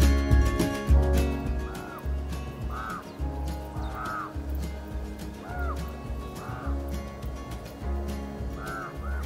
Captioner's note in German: Naturgeräusche